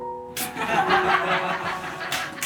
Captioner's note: laughter